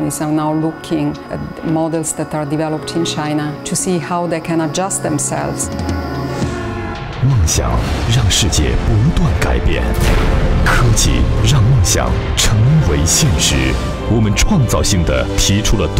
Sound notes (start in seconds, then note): 7.6 advertisement in Chinese